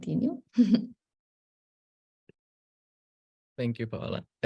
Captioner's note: chuckling